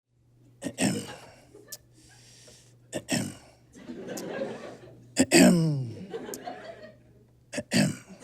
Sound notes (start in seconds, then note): 3.7 scattered giggling; 8.0 audience laughs